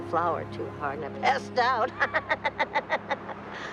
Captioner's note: laughing